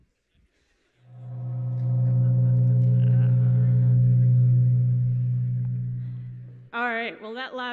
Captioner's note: gong